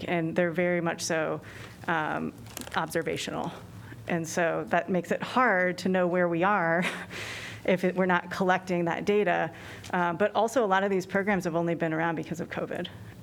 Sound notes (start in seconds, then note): 6.7 laughter